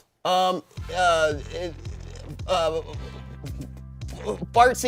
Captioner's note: stutters